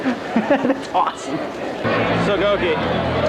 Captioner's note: giggling